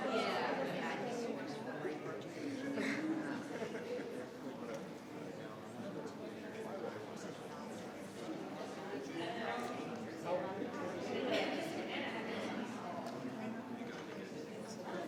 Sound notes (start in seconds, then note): 4.8 people chattering